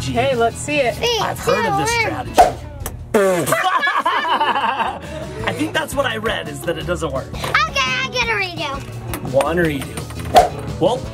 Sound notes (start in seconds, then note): 2.9 eyeball whooshing; 3.2 parents laughing; 9.9 eyeball whooshing